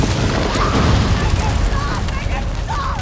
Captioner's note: screams